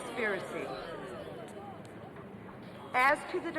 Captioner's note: people chattering